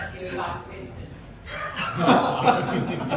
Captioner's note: laughter